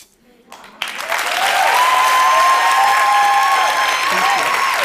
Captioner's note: applause